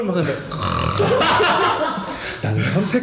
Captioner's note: snoring